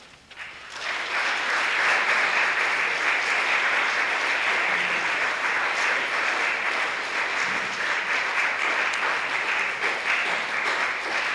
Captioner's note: applause